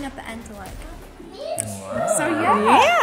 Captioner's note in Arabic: نقرات اللسان